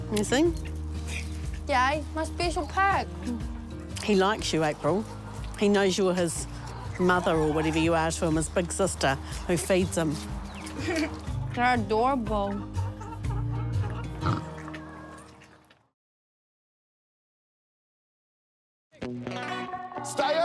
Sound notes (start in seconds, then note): 10.6 laughs